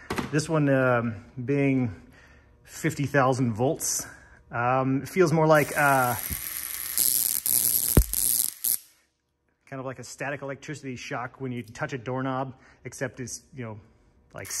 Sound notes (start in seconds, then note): 5.5 sparks zapping; 14.4 zapping